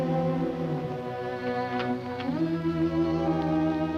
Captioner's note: mellow music; door opens